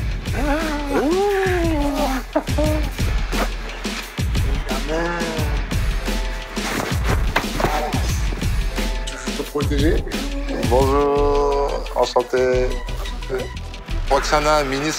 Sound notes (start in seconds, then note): 1.5 chuckles